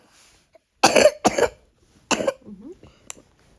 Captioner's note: cough